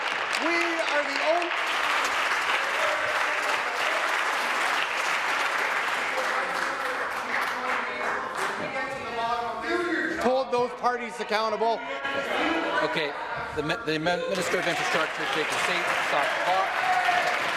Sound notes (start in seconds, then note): 2.5 applause; 6.8 continued applause